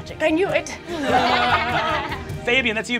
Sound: laughing

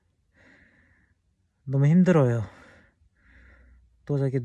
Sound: exhausted

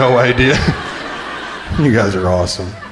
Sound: crowd laughing

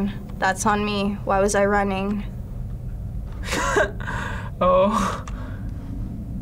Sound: chuckles

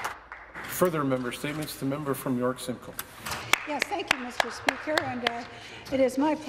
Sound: some Applause

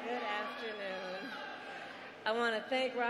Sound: cheers and applause

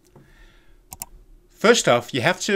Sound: computer mouse click

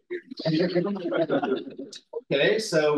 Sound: audio distorting

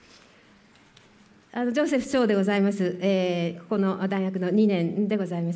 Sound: speaking japanese

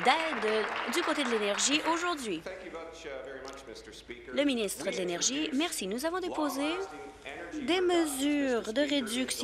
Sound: applause

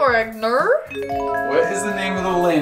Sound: mysterious chime

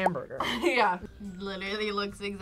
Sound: laughs

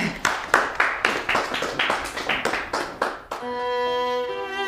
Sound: clapping hands

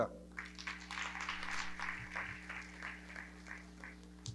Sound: audience clapping

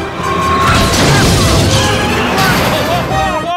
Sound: alarm blaring; crashing

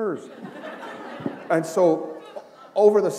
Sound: laughter

